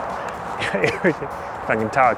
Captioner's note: coughs uncontrollably